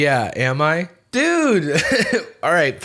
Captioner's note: laughs